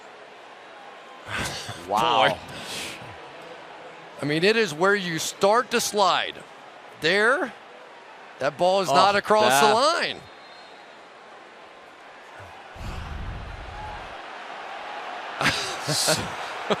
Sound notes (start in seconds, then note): 10.2 whistle; 14.4 cheering